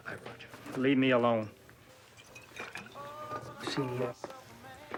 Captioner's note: liquid sloshing